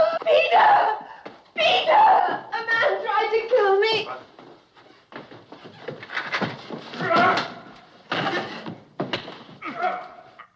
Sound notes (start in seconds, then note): 6.4 grunting; 6.9 grunting, blows landing